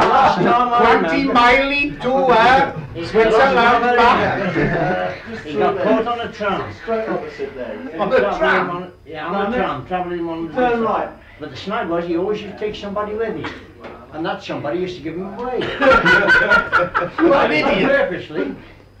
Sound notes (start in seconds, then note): 1.9 laughter; 15.6 laughter